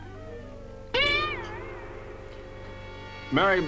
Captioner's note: gun dinging